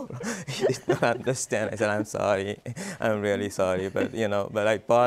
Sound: laughs

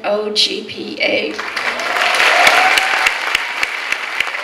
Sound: clapping

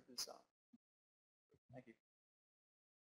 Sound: voiceover

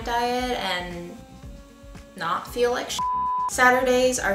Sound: beeping

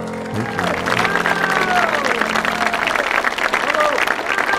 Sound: audience applauding

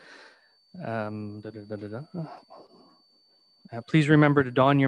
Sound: vocalizes

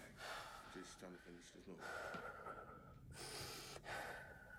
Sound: heavy breathing

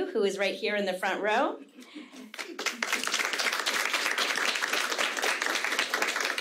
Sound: audience clapping

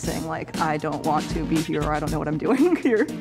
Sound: enunciating

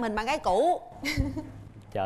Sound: laughing

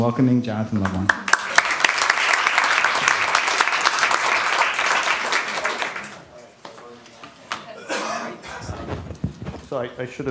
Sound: applause

